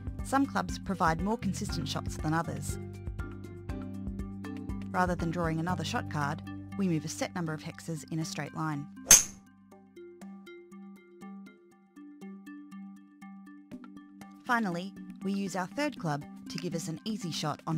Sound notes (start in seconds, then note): 9.0 3 wood hitting golf ball